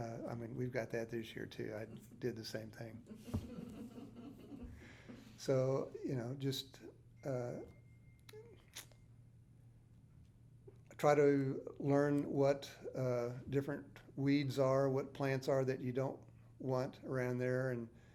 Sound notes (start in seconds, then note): 3.2 interviewer laughing